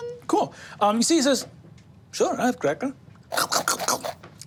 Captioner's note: chews